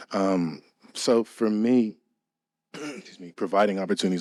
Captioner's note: clears throat